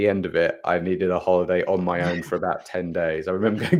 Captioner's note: laughs; laughs